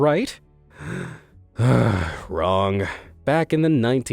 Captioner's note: sighs